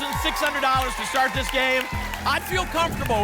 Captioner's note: applause and cheering